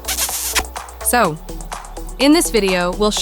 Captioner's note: audible kiss; excited